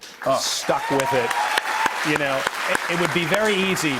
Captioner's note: cheers and applause